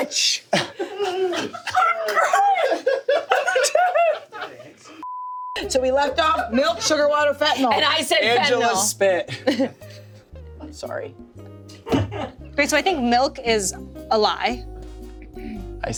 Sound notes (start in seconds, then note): 0.8 everyone laughs; 5.0 beep